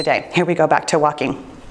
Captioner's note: timer beeps